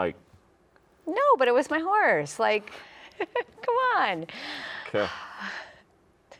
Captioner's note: chuckles